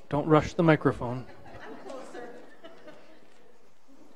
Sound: participants laughing

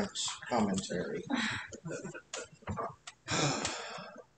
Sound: laughter

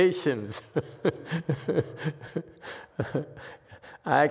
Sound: laughs

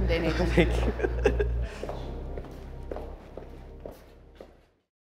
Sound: laughs

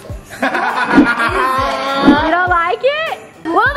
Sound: laughs

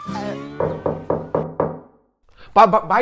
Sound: knock knock

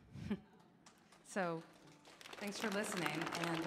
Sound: audience applauding

